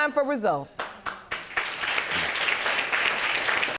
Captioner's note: audience applauding